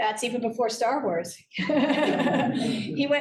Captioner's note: laughter